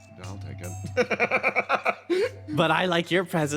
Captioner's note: laugh